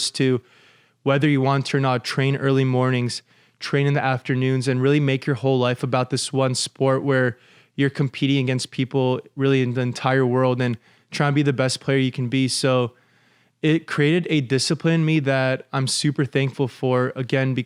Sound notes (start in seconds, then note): none